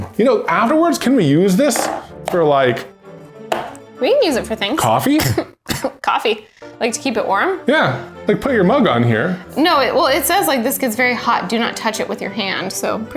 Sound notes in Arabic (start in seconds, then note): 5.0 سعال